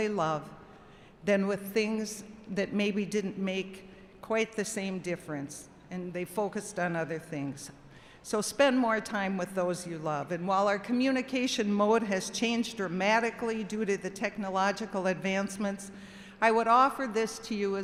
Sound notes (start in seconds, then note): none